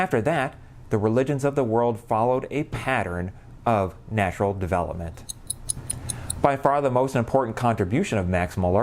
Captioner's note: clock ticking